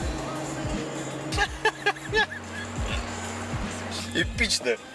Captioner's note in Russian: смех